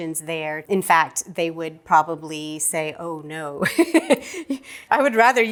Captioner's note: laughing